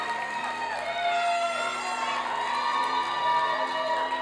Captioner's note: applause and cheering